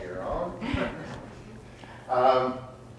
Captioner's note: audience laughs